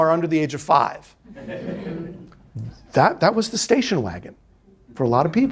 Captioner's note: students laughing